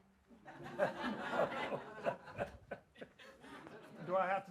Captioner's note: audience laughs